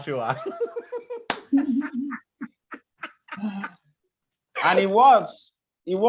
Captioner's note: laugh